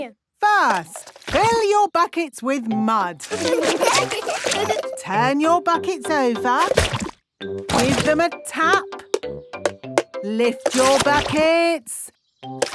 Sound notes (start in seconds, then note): 3.2 laughing; 9.3 taping